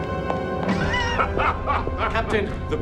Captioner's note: laughing